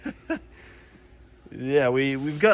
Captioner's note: laughs